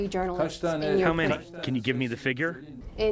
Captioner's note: through translator